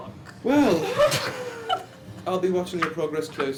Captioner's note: laughter